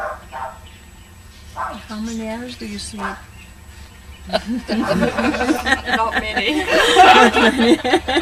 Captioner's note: laughter